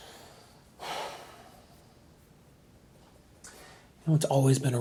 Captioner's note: Randall sighs